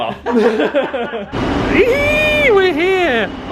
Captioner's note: both laughing